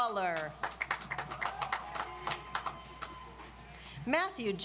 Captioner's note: audience applauds